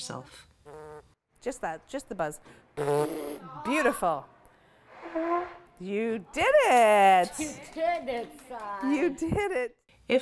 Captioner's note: participant buzzes lips